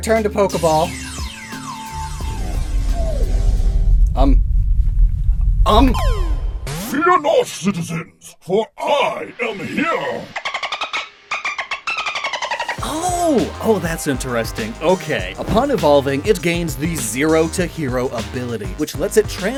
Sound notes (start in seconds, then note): 6.2 deep voice; 10.3 dolphin noise SFX